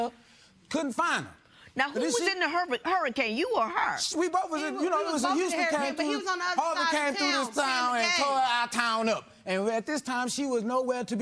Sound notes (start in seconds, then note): none